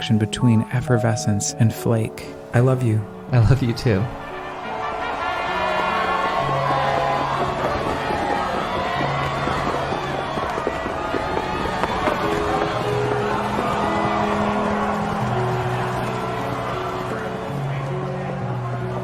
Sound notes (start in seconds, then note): 7.8 crowd chattering; 9.3 horses galloping; 14.2 piano music continues